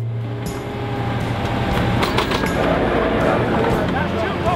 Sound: machine whirring

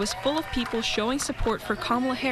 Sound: NATS Honk, people cheering

